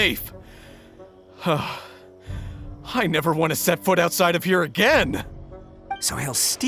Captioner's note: sigh